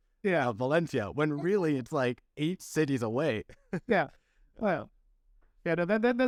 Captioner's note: laughter